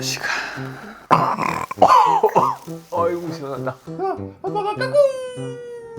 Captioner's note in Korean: 시원한 트림ㅋㅋㅋ